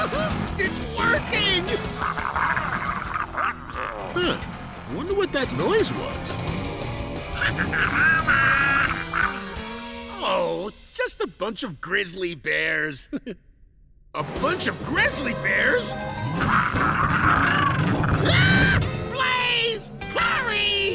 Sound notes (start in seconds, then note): 1.7 growling; 7.4 growling; 16.2 screaming; 16.2 growling